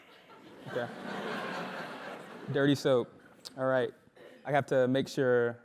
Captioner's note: laugh